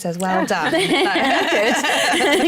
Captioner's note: laughter